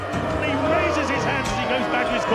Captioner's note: crowd jeering